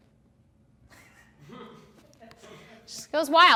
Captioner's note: laughing